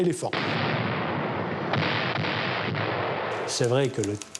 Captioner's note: explosions booming